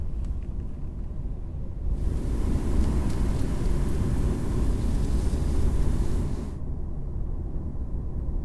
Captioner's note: road sounds, wind and rain